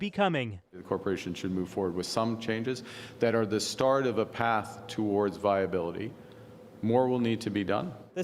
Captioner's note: none